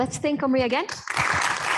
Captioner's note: applause